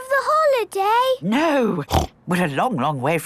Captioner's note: snorts